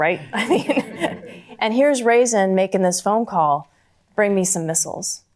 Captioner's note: chuckles